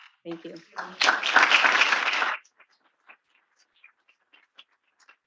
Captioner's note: attendees applauding